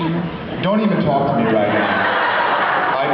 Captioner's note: laughs